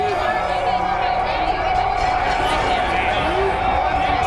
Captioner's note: crowd cheering